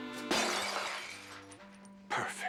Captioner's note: shattering